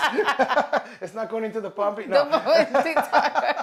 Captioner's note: laughing; speaks in a foreign language